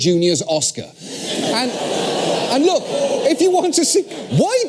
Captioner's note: laugh